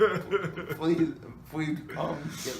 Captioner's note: laughs